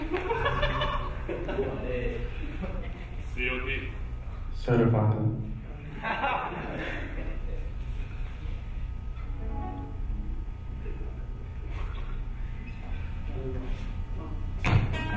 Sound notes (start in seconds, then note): 0.0 laughing; 4.7 speaking in a foreign language; 5.9 laughing